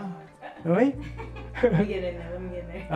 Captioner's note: laughs